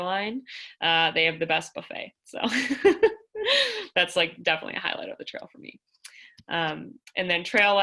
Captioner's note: laughter